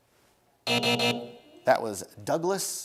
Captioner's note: buzzer sounds